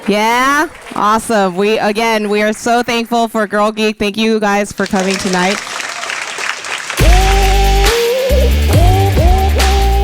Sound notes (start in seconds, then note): 4.8 audience applauding; 6.8 upbeat music